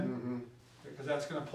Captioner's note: mumbles in agreement